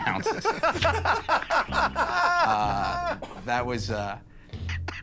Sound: laughter

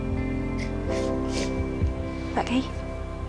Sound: sniffles

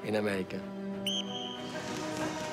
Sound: whistle blows

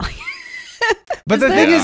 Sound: laughing

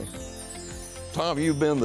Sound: transition chiming

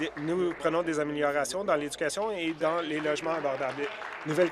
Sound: applause

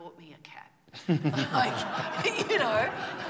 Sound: laughter

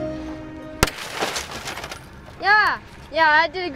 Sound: glass shatters

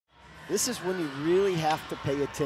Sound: audience cheering

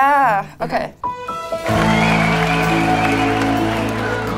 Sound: crowd cheering; enchanted music

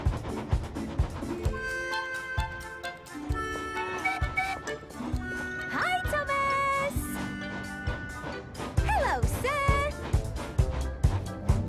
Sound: Rebecca Whistles

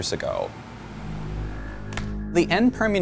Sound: deep horn

